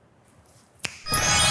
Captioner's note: snap; magic wand swooshes